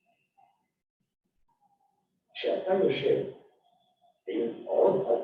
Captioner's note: non-english speech